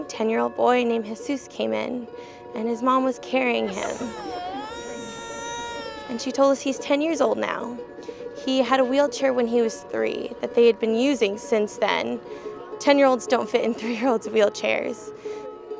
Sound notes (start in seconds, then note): 3.5 crying